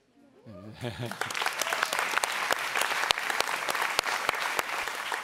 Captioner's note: audience applauds